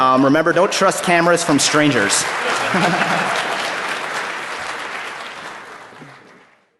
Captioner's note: laughter